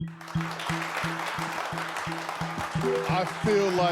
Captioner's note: applause